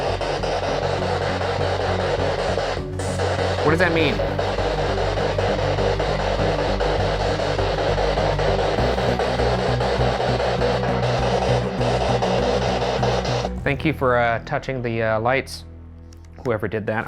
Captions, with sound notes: (spirit box crackling) What does that mean? (spirit box crackling) Thank you for touching the lights, whoever did that.